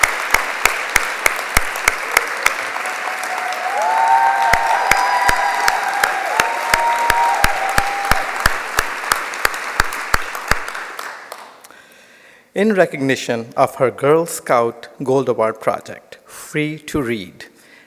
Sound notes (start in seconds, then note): 0.0 cheers; 0.0 applause